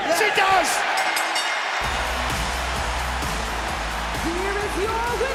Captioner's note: fans cheering; bell rings